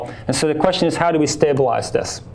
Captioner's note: none